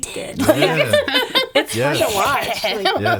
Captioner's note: laughing